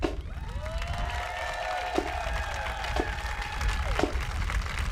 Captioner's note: audience applauding